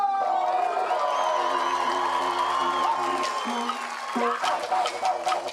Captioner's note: cheering and applause